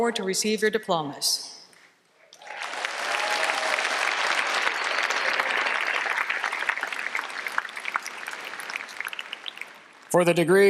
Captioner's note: applause